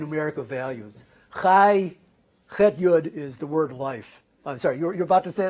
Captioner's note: hebrew